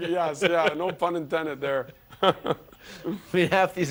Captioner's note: laughter